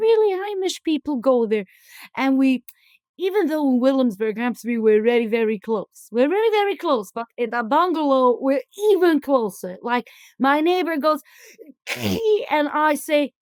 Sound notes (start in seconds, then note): 11.8 sneeze